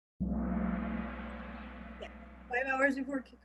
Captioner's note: gong